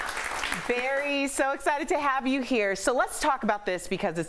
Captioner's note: applause